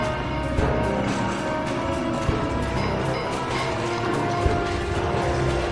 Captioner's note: objects clattering